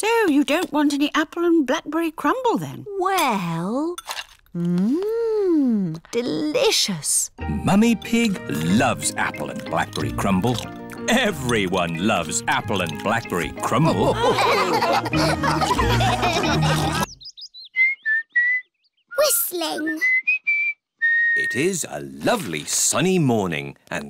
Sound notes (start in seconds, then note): 13.7 all laughing; 17.4 whistling